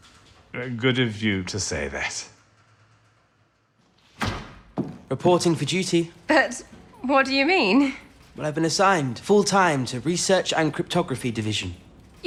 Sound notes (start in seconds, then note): 2.5 A door opens. Footsteps